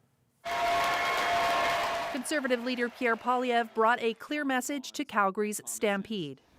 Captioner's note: applause